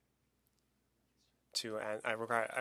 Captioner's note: speaking French